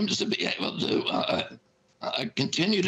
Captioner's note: laughter